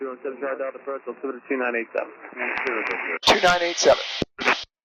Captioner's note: radio traffic